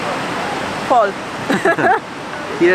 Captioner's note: laughs